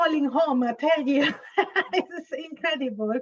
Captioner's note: laughs